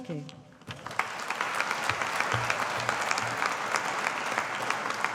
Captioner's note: audience applauding